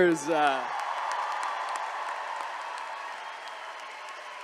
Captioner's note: attendees cheering